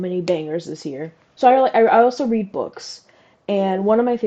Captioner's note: stammers